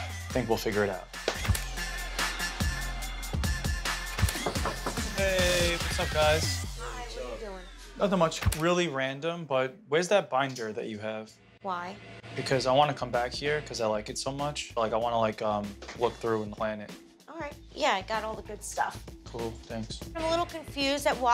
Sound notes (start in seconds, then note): 2.8 upbeat music; 4.4 Vinny knocks on the door